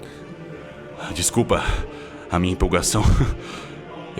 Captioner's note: sighs